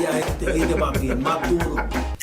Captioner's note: speaking spanish; laughs; ticking